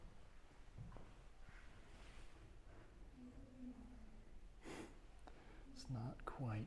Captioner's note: footsteps